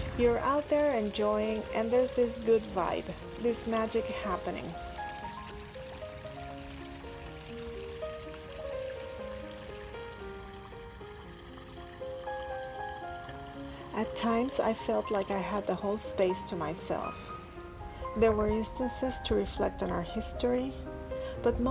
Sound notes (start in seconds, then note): 5.3 instrumental music; 5.3 sound of small waterfall flowing